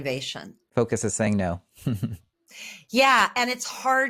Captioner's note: laughs